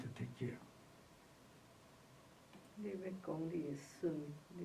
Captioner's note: speaks Chinese